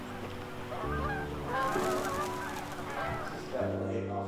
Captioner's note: birds flapping